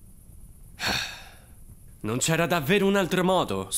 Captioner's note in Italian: Sospira